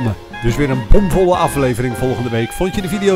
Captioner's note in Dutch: Voiceover